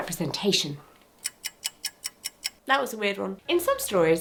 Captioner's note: clock ticking